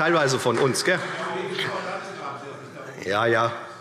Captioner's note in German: Zurufe SPD